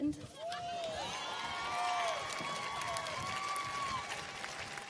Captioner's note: audience cheers and applauds